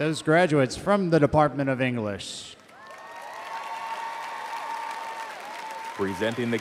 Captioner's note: audience cheering